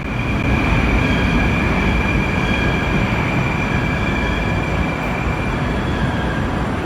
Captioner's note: arrival of another train at the station